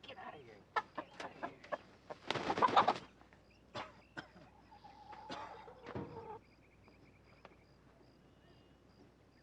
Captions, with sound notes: Get outta here. (chicken clucking)